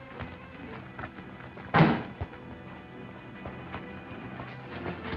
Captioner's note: car door thuds